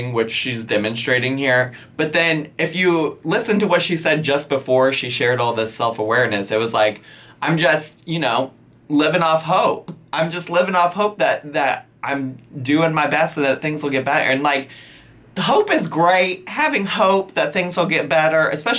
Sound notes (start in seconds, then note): none